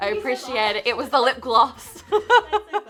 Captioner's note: person laughing